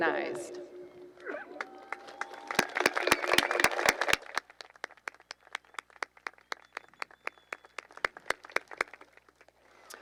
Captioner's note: applause and cheering